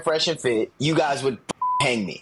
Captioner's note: beep